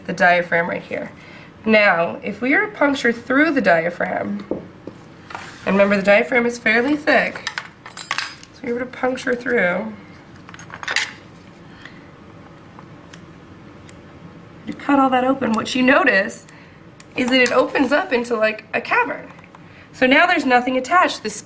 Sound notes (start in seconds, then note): 10.3 tool clanking noise; 13.1 scissors-clipping